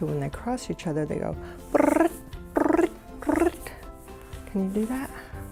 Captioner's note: makes cricket sound